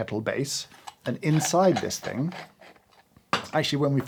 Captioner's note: lid unscrews